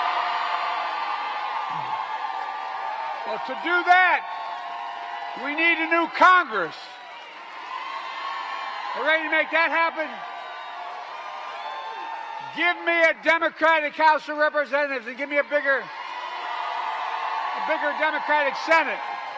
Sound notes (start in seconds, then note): 8.2 applause